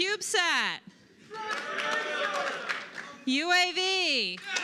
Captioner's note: cheers; cheers